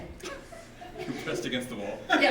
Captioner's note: audience laughing